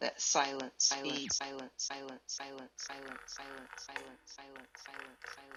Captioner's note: echoes